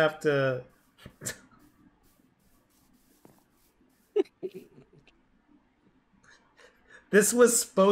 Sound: breaks down

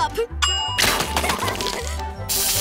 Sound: laughing

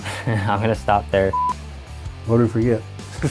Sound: beep; all laughing

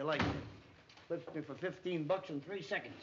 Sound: door closes

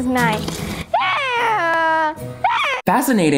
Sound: screeching

